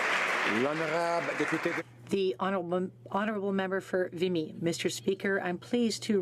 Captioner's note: some Applause